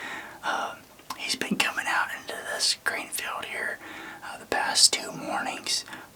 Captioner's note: whispering